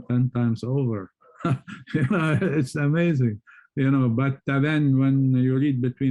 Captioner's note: scoffs